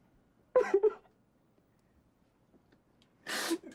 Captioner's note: man crying